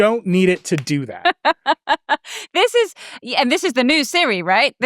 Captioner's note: chuckles